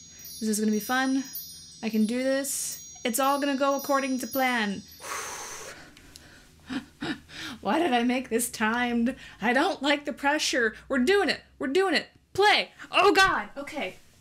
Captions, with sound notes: This is gonna be fun. I can do this. It's all gonna go according to plan. *breathes out* Why did I make this timed? I don't like the pressure. We're doing it. We're doing it. Play! Oh God! Okay.